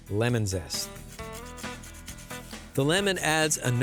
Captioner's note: grating